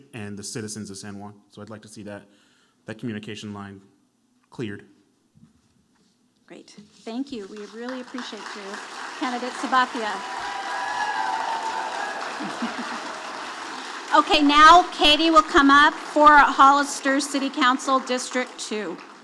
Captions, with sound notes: and the citizens of San Juan. So I'd like to see that communication line cleared. - Great, thank you. We really appreciate you, candidate Sabathia. (audience applauding) Okay, now Katie will come up for a Hollister City Council District two.